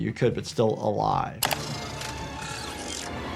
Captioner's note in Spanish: traqueteo mecánico; música dramática